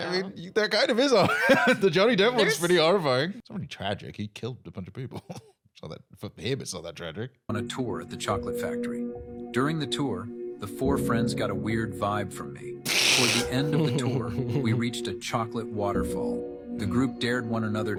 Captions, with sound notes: I mean, there kind of is. The Johnny Depp one's pretty horrifying. It's already tragic. He killed a bunch of people. For him it's not that tragic. (both laughing)